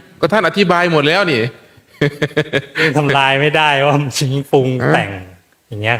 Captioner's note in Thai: เสียงหัวเราะ